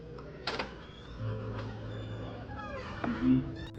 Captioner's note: door opening noises